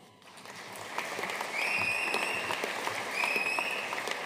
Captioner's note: audience applauding